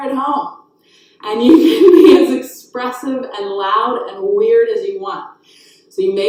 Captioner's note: laughs